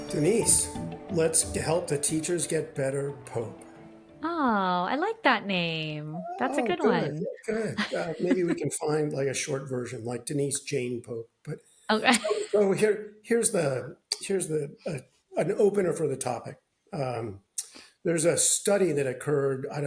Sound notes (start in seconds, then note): 7.5 laughs; 11.9 laughs